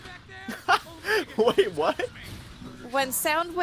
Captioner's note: laughs